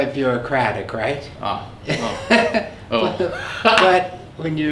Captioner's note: laughs